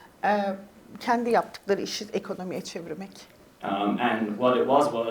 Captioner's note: speaks in Turkish